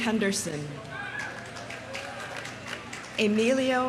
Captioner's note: audience applauding